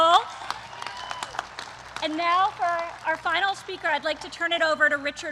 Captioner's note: applause